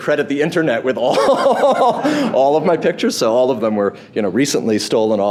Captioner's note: laughs